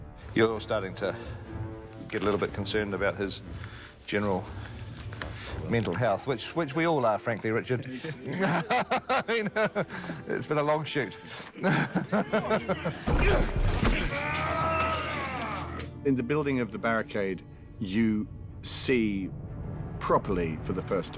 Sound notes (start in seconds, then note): 8.0 all laugh